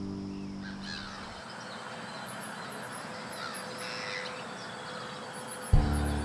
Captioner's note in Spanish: música piano; motor de lancha; canto de pájaros; música suave